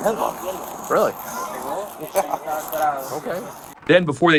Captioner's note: laughing